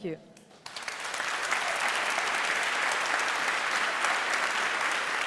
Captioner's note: applause